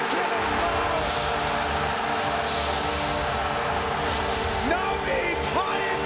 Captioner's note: audience cheers